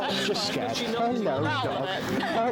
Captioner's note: people chattering